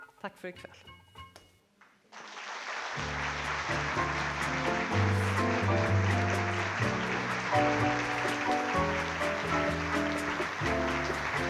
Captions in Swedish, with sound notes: Tack för ikväll. (Applåder)